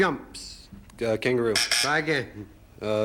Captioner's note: buzzer sounds